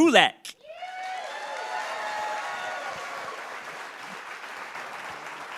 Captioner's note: cheering and applauding